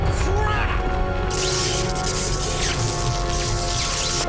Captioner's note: crackling continues